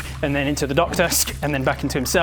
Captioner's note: sssk!